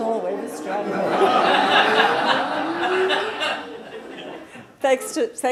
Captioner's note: laughter